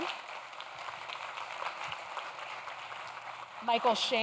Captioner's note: audience claps